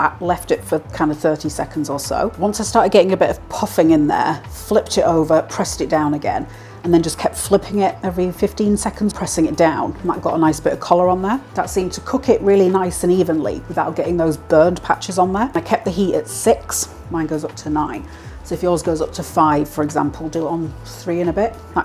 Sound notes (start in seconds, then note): none